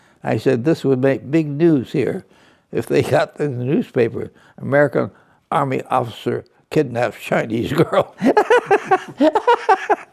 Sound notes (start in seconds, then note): 8.1 laughs